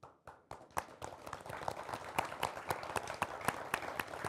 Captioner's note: applauding